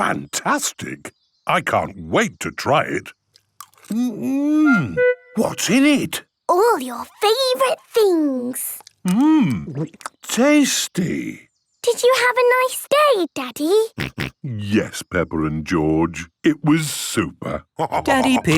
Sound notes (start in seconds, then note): 14.0 snorting